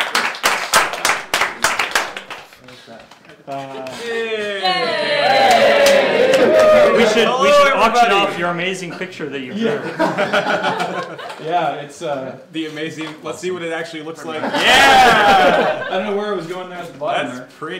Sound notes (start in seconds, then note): 0.0 cheering and applause; 4.4 more cheering; 9.5 laughter